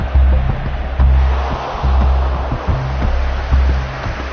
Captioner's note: crowd groaning